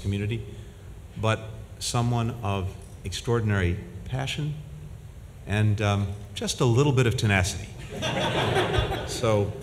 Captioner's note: laughter